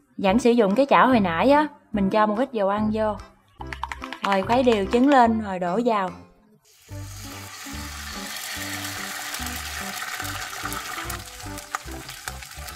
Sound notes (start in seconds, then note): 6.6 sizzling ~~